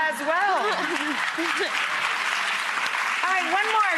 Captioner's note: clapping